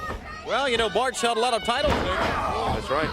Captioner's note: crowd chatter